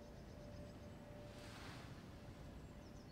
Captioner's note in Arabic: زقزقة العصافير